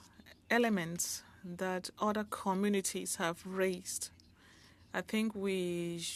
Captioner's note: speaking French